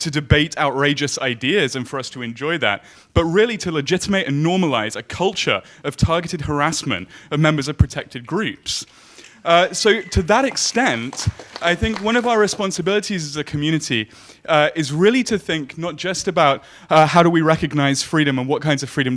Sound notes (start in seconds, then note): 9.6 audience clapping